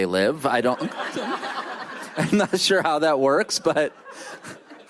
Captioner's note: laughter